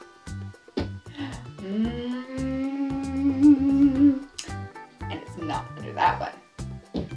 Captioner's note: hums